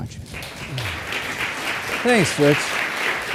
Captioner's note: audience clapping